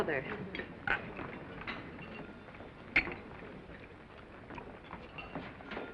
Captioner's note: crew chattering; cutlery clinking